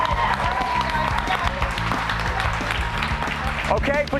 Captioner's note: cheers and applause